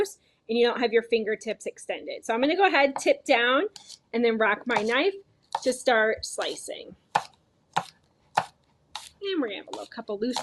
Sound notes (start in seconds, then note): 3.7 knife slicing; 5.9 knife slicing repeatedly